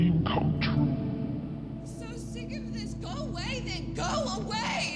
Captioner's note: soundbite of archived recording